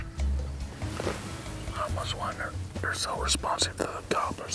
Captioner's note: whispering